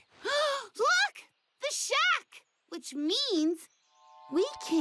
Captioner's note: gasps